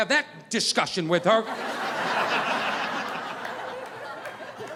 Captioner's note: audience laughing